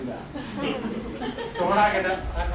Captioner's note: laughter